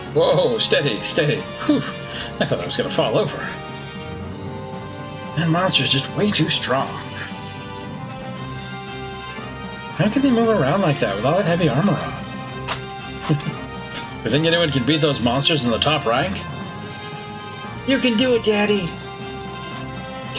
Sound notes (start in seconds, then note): 13.2 chuckles